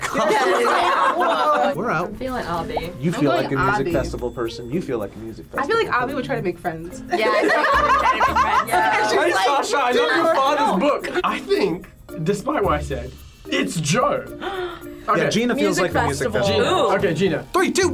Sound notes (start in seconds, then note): 14.4 gasps